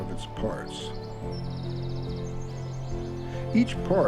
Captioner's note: birds chirp